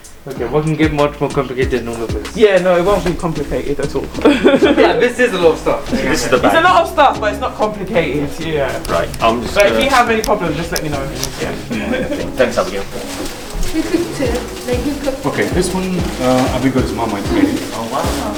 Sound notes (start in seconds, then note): 3.2 laughs; 17.6 laughs